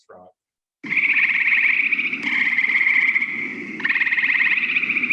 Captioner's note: frogs croaking